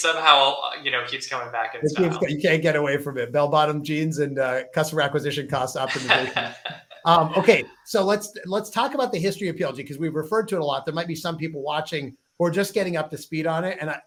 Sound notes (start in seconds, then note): 5.8 laughs